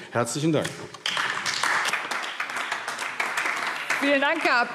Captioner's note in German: Beifall AfD